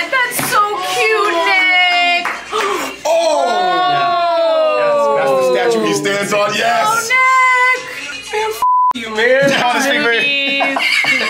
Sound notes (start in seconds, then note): 1.8 people applauding; 2.4 people gasping